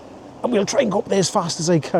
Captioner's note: laughs